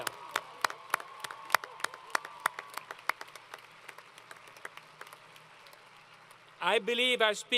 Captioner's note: applause & Cheering